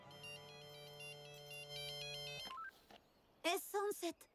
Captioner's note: phone chimes